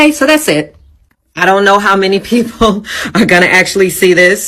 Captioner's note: chuckles